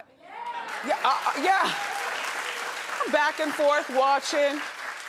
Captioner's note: audience applauding